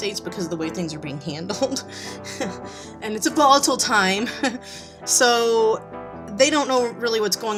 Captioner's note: giggles